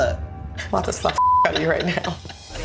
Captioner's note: beep